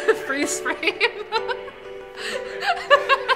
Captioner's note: laughter